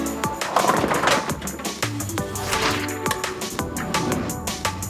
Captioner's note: lively music; bowling pins clatter